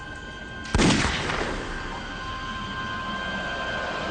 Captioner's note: gun shot fires; suspense music